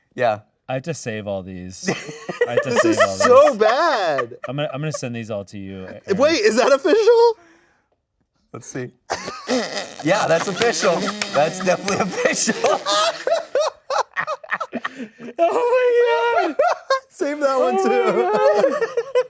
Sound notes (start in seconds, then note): 1.8 laughs; 9.4 hosts laughing; 12.8 hosts laughing